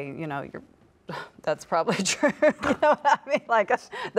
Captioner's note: laughs